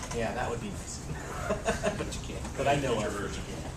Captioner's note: laugh